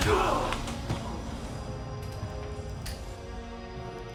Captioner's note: blow striking